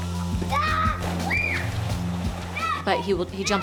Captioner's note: girl screams